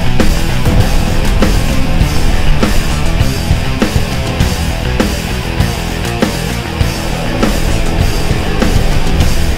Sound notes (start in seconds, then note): 0.2 blasting sound; 3.3 hard rock music